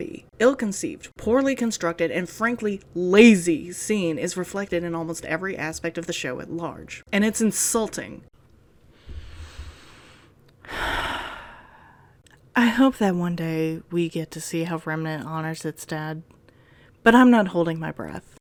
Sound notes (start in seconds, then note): 8.9 deep inhale; 8.9 deep exhale